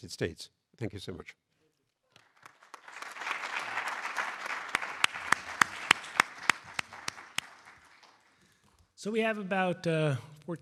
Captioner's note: applause